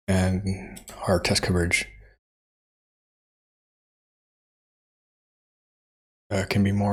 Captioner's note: blank Audio